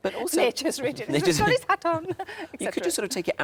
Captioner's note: speaks in Geordie